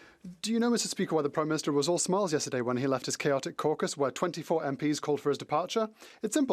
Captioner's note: speaking French